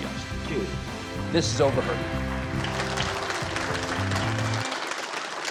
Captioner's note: audience applauding